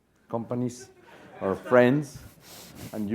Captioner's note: laugh